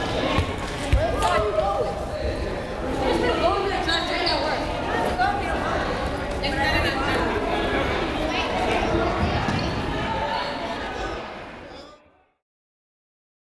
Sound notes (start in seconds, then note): 8.8 crowd chatting